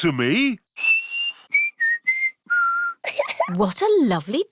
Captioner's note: whistles a tune; giggles